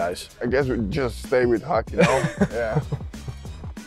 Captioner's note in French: rires